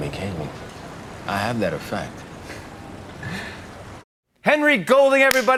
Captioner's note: both laugh